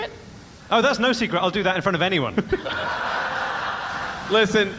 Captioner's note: audience laughs